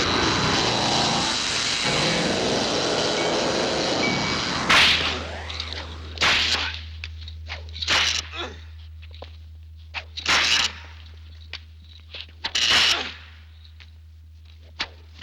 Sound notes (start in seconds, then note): 5.9 cracking; 5.9 grunting